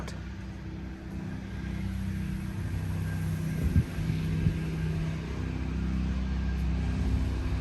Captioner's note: machine rumbling; wind whooshing